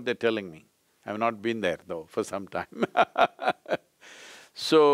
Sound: laughs

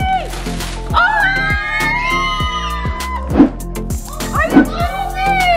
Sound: and kids screaming

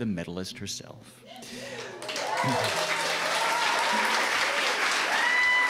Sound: applause

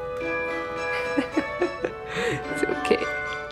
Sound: laughing

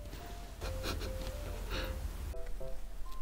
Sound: hehehe

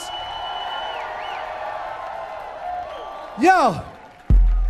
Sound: audience cheering

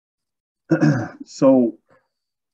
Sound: clears throat

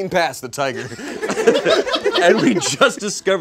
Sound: audience laughs

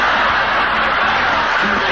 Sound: audience laughing

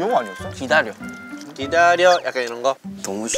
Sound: says it like a music show

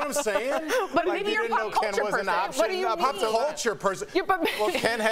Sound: laughter

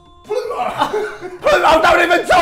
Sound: laughing

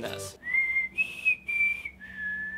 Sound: whistles

